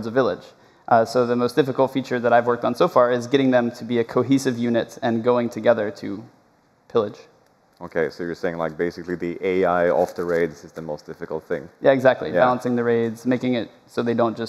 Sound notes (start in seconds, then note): none